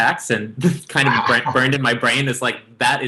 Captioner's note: chuckling